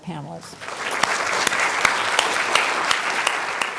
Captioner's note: applause